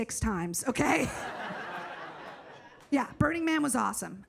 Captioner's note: audience laughs